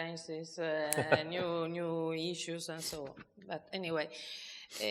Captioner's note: chuckling